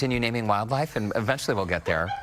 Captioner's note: laughter